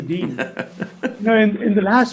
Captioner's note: laughing